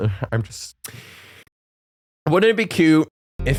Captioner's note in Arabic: نفس عميق